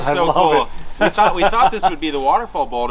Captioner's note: laughs